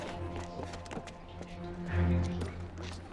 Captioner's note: footstep